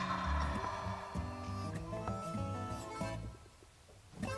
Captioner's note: turkey gobbles; country music